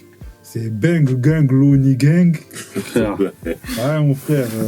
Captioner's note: laughs